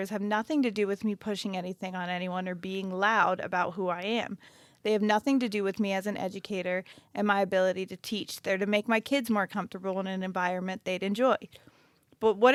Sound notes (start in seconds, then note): none